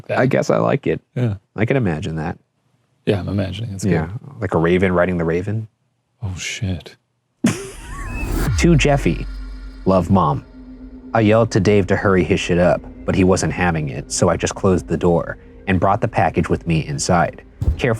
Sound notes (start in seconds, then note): 7.4 chuckling